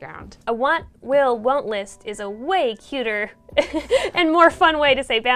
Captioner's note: laughs